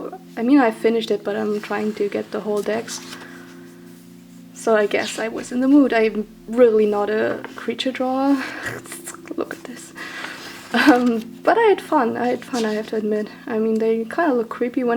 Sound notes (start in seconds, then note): 8.4 laughs